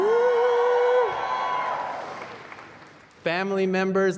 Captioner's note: applause